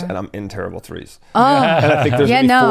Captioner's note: laughs